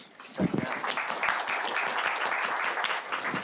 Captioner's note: applause